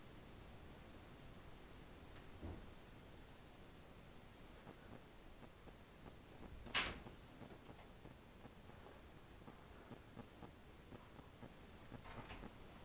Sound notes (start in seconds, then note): 6.6 door handle clicks